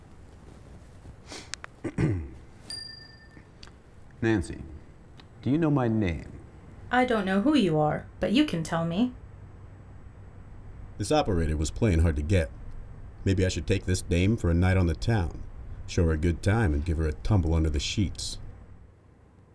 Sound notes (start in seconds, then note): 2.6 phone chimes